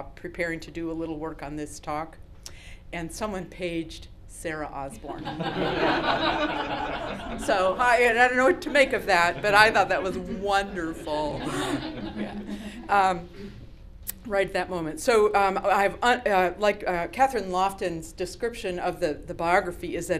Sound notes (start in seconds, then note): 5.0 laughter